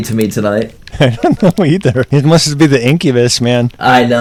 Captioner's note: laughs